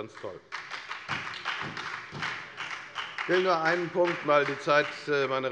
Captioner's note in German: Beifall bei der FDP und der SPD